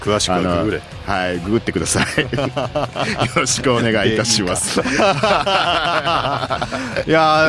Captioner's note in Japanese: 笑い